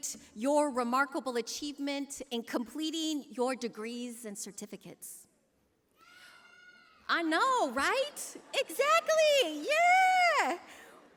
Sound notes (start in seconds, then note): 5.9 scream